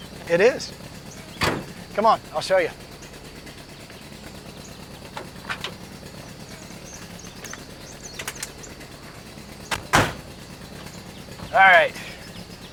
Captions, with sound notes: - It is, come on, I'll show you. (door closes) - All right.